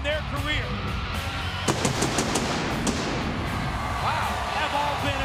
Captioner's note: fireworks booming